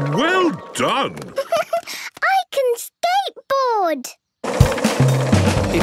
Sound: giggles

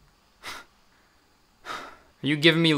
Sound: scoffs; sighs

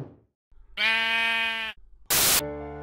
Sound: sheep noise

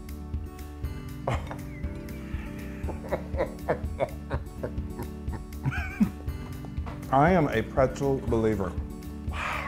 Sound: laugh

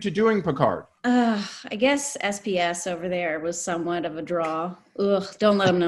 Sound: sighs

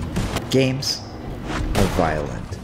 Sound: gunshot banging

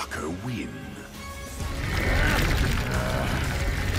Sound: both growling

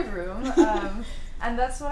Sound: laughter; laughs

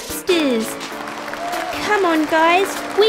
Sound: clapping

